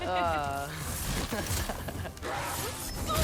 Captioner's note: laughs